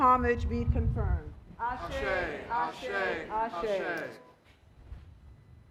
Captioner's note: speaking Foreign Language